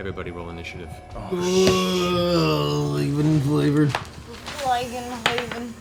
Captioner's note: groaning